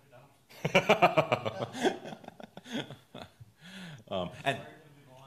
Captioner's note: laughs